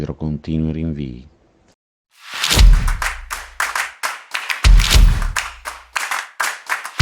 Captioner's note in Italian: Applauso